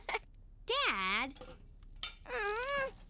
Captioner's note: giggles